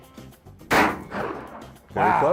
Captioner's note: gun firing